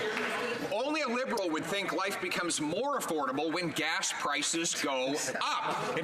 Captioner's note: some Applause